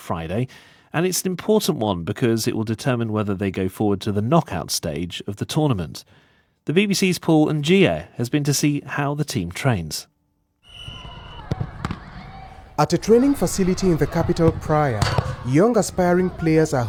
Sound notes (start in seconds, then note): 10.6 whistle trilling; 11.1 kids yelling